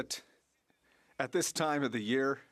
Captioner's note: speaking French